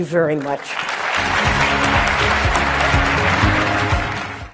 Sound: audience applauding

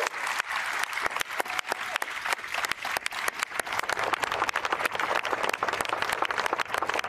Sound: applause

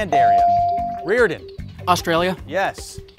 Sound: bell ringing

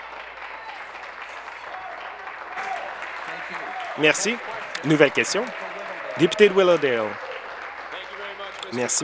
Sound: applause

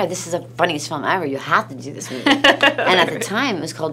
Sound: laughs

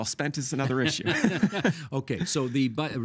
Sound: laughing

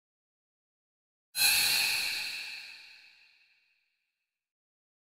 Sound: eerie scream

